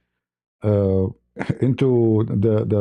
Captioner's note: berdehem